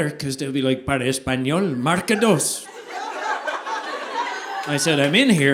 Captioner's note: speaks Spanish: para español,marque dos